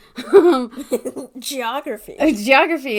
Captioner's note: laugh